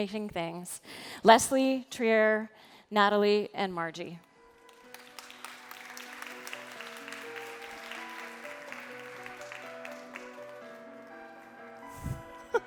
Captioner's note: laughter